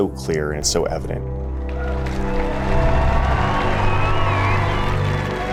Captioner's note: crowd cheering